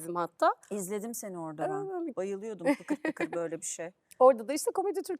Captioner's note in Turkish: kahkaha